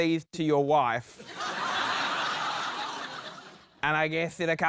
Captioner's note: laughter